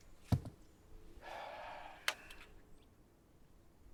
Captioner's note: sighing